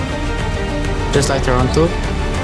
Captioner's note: jinggg